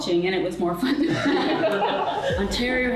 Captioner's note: everyone laughs